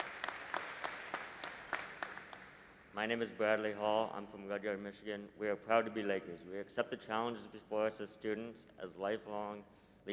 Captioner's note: applause